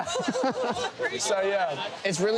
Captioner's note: more laughs